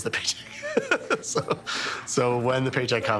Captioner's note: laughing